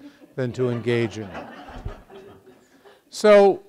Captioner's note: students laughing